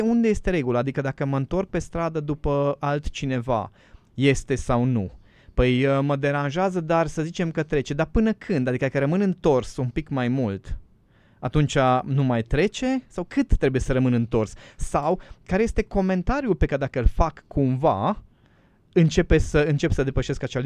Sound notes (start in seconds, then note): none